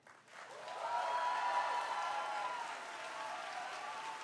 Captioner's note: cheers and applause